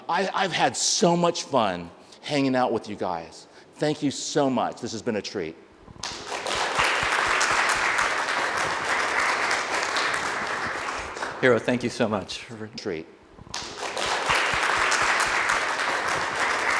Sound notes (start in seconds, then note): 6.0 audience applaud; 13.5 audience applaud